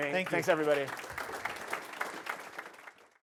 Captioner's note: applause